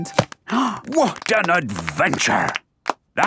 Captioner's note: applause